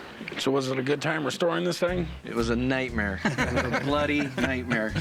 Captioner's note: laughter